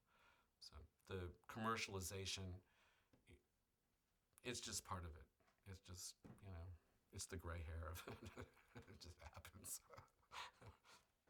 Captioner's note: laughs